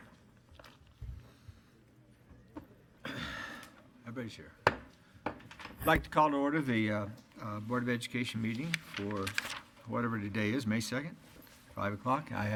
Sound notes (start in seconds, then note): 3.0 coughs; 5.2 gavel bangs